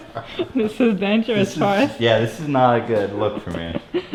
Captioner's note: chuckles